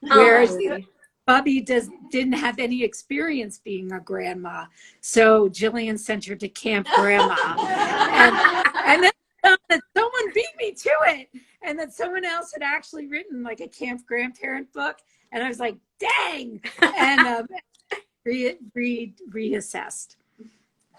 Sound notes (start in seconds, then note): 6.9 all laughs; 16.8 laughs